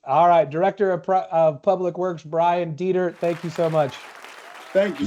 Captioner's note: applause